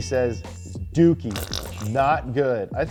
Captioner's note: fart sound